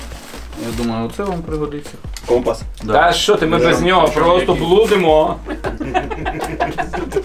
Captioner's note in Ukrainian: сміх